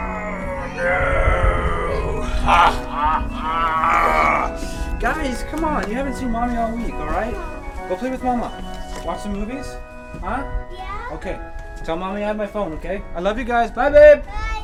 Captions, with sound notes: [Monster growl] Guys, c'mon. You haven't seen mommy all week. Go play with mama. Watch some movies? Tell mom I have my phone. I love you guys! Bye, babe!